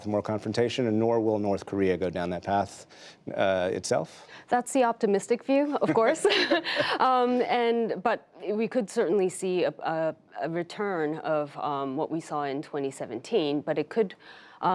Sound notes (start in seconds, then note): 5.7 laughter